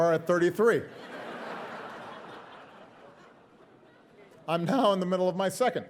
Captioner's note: audience laughing